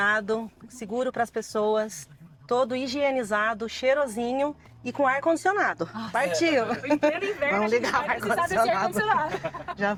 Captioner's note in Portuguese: risadas